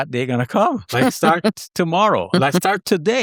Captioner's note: host laughs